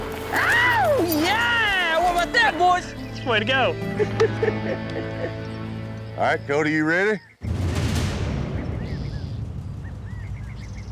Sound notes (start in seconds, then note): 3.9 chuckling